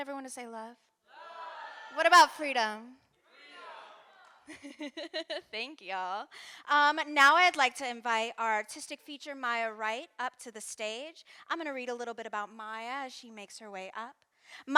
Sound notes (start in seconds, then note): 4.5 laughs